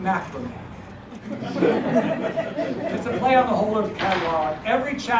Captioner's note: laugh